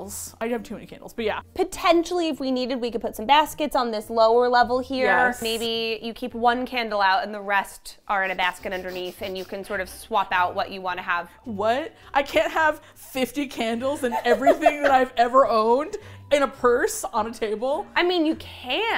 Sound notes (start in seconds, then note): 12.0 dryly; 14.0 laughs